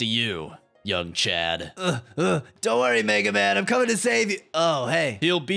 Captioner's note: huff huff huff